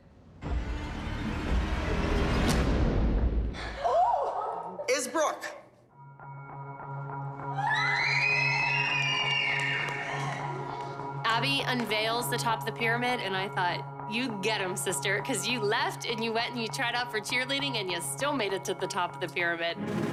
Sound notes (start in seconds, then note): 0.2 dramatic music; 3.8 gasps; 5.8 tense music; 7.5 excited screams